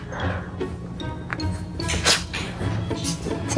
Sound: sniffing

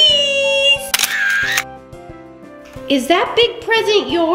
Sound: camera shutter clicks

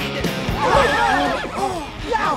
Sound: all shouting

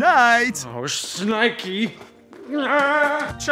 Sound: groaning

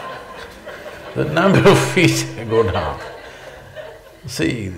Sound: laughter; laughs

